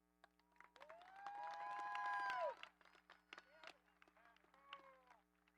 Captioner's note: audience applauding